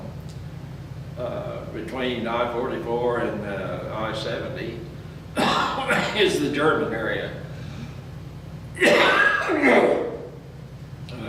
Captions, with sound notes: Between I-44 and I-70 (coughs) is the German area.